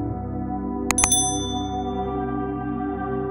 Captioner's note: chime sound